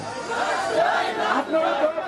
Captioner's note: sound of procession